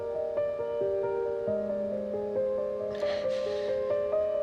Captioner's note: Maggie crying